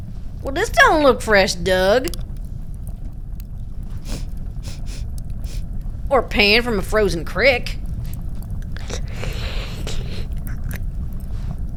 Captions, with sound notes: Well, this don't look fresh dug. [sniffs] Or panned from a frozen crick. [slurps]